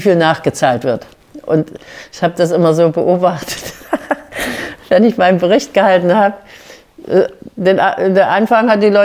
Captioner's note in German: Lachen